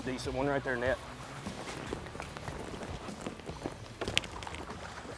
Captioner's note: fish splashing